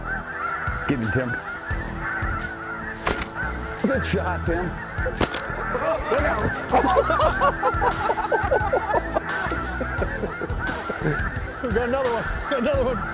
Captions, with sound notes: >>GET HIM TIM. (GUN SHOT) >>GOOD SHOT TIM. (GUN SHOT) (LAUGHTER) >>GOT ANOTHER ONE, GOT ANOTHER ONE.